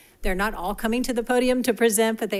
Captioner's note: none